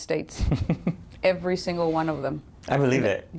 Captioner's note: laughter